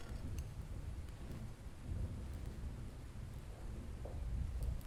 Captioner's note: thunder rolling